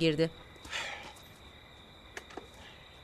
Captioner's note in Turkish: Nefes sesi